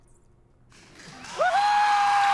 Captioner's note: cheering